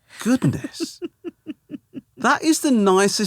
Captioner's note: laughing